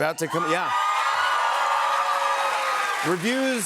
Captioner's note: cheers and applause